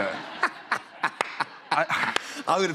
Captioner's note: laughter